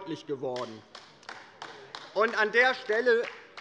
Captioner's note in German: Beifall bei der LINKEN